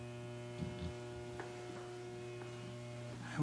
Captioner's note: footsteps